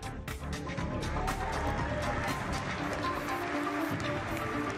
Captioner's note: applause